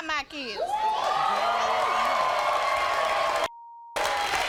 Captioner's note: audience cheers; beep